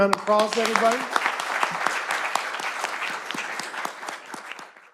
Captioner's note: applause